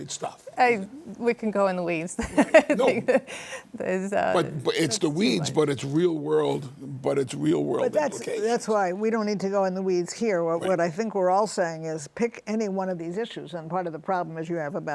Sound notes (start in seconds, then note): 2.2 laughs